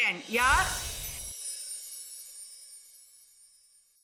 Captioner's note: chimes tingling